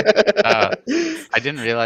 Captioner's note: laughs